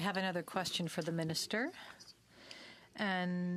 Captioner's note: speaking French